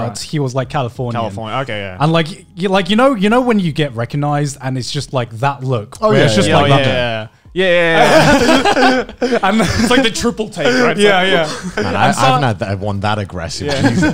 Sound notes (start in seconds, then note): 7.8 men laughing